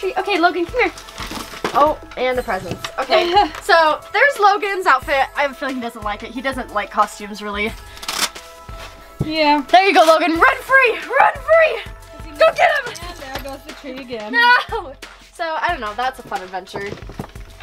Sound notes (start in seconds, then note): 3.2 laughter